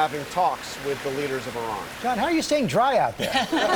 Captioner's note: laughter